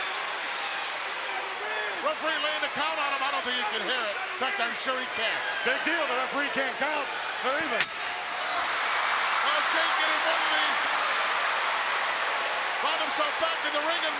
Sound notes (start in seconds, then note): 7.4 chair smacks; 7.7 crowd cheering